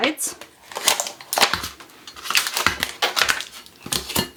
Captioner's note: paper rustles